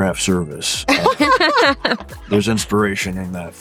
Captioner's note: laughing